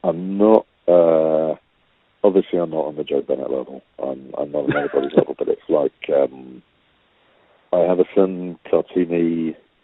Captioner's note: laughter